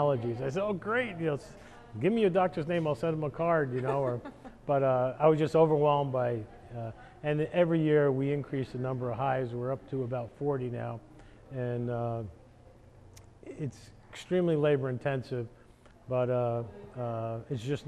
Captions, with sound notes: TO EAT LOCAL HONEY FOR MY ALLERGIES. I SAID OH GREAT, GIVE ME YOUR DOCTOR'S NAME, I'LL SEND HIM A CARD. (LAUGHING) BUT I WAS JUST OVERWHELMED BY IT, AND EVERY YEAR, WE INCREASE THE NUMBER OF HIVES, WE'RE UP TO ABOUT 40 NOW. IT'S EXTREMELY LABOR INTENSIVE,